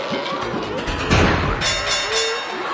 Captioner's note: blowing; bell dinging